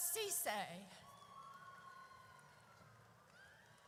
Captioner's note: audience cheers